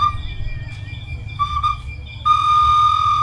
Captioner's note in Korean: 삐빅